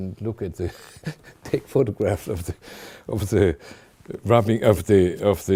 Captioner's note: chuckling